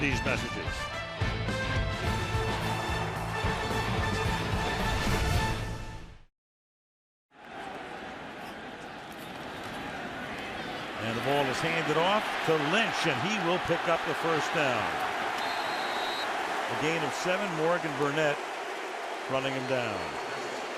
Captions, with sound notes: after these messages. [upbeat music] And the ball is handed off to Lynch. And he will pick up the first down. [whistle] A gain of 7. Morgan Burnett running him down.